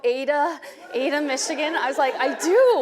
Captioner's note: audience laughing